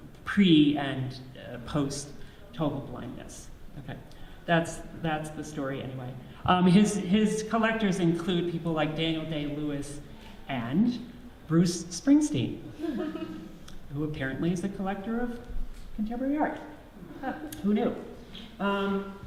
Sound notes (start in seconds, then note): 12.8 audience laughs slightly